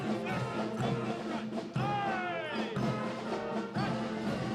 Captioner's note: Le commandant de troupe crie des ordres